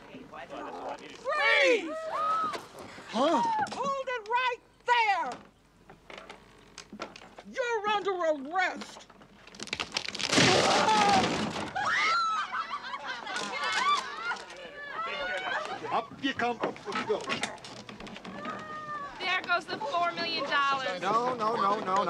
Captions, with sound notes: Freeze! Huh? Hold it right there! You're under arrest! Whoa! [laughter] Up you come. Up you go. There goes the $4 million. No, no, no, no. Not exactly.